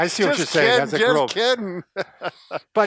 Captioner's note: chuckles